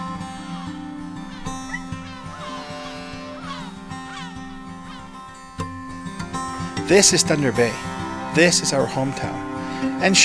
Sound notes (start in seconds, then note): 2.7 horn honks